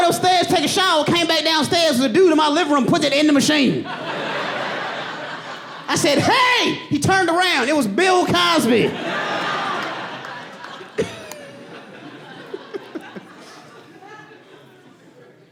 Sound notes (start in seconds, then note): 0.2 audience laughing; 6.8 audience laughing; 8.8 laughs